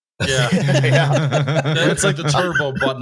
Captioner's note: laughter